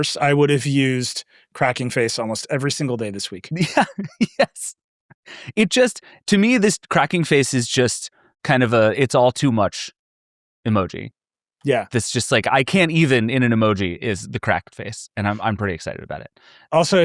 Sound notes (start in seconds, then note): 3.5 laughs